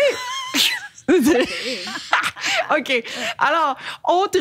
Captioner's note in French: rires